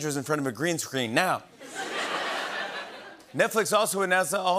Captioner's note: laughter